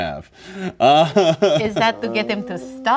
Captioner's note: laughing